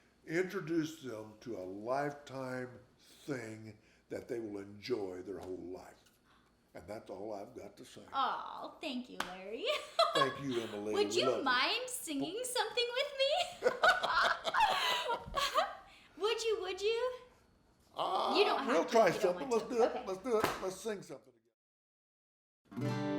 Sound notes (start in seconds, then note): 9.6 laughs; 13.4 both laughing